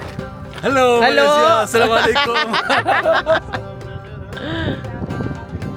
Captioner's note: laugh